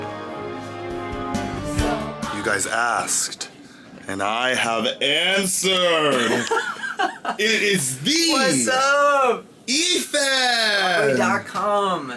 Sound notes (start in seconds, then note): 1.6 upbeat music; 6.1 laughing